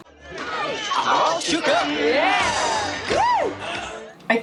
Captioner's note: crowd yelling